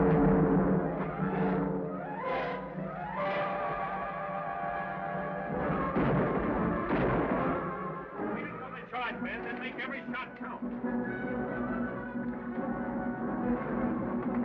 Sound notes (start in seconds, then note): 0.2 dramatic, exciting music; 6.0 guns bang; 11.5 exciting music